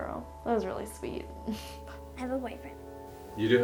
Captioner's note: chuckles